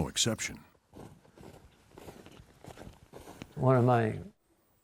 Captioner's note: snow crunching